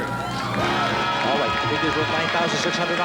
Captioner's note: audience cheering